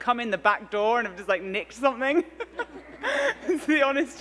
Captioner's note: laughs